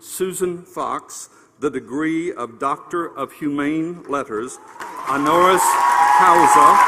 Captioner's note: applause